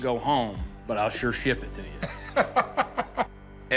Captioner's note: Rick laughs